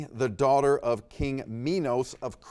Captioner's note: none